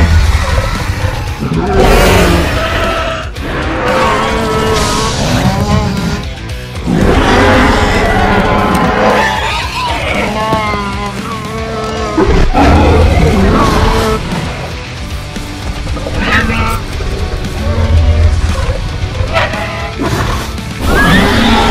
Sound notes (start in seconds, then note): 1.3 Bumpy moans; 6.2 Indominus Rex growling and attacking